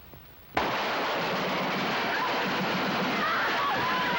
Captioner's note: gunfire